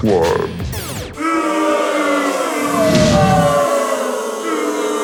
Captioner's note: audience booing